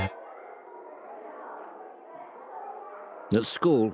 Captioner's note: children chattering